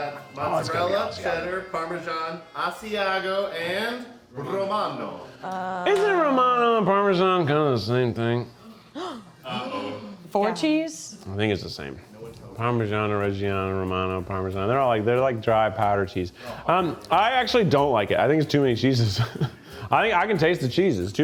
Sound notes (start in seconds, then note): 8.6 gasps; 19.0 chuckles